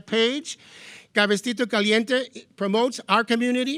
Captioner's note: speaking in foreign language